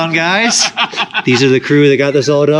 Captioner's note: laughing